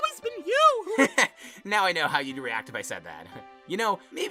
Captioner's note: nickel laughs